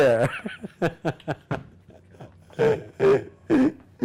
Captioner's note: laughing